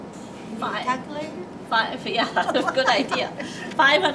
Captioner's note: laughing